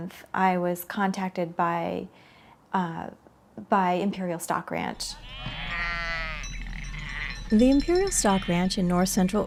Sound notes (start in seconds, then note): 5.0 sheep bleat